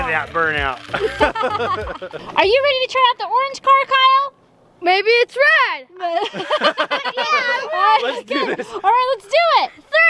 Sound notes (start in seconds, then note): 0.8 laughing; 6.0 laughing